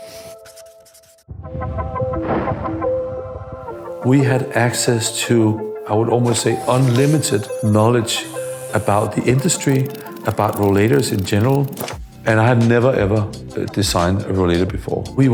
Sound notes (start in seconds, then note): 0.1 pen scribbling; 1.5 rocket whooshes